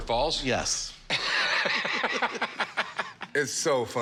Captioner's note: laughter